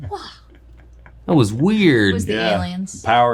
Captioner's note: laughing